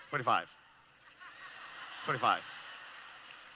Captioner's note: laughing